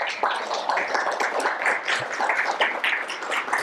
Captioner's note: applause